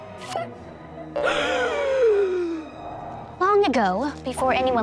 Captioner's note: suspenseful music; Blueberry gasps